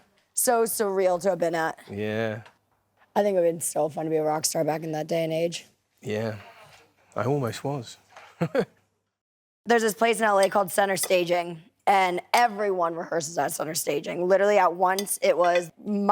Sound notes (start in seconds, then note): 8.4 laughs